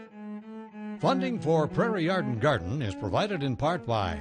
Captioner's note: voiceover